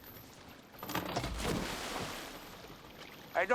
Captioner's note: anchor splashes